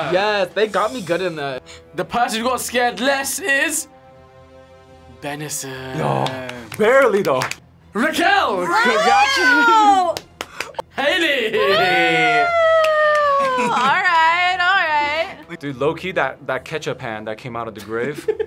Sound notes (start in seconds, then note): 13.3 laughs; 18.2 laughs